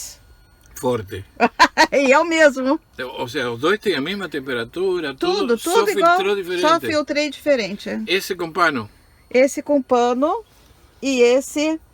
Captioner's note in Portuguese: risos